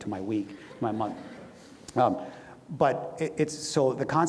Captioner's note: audience laughs